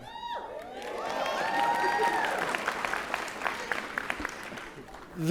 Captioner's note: applause and Cheers